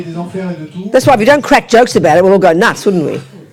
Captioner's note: speaking in French